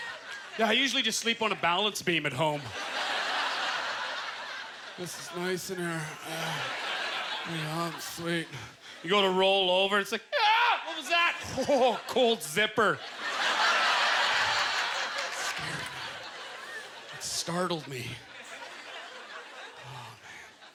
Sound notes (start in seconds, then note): 0.0 audience laughter; 2.5 audience laughter; 5.3 grunting; 13.0 audience laughter